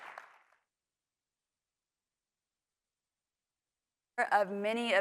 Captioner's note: applause